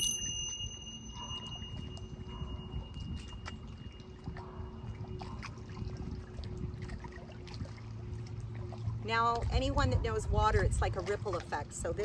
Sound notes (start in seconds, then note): 0.0 bells chiming; 8.2 water splashing